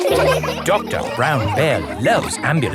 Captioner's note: all laughing